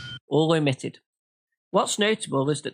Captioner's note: ding for each; ding